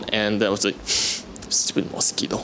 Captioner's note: breathes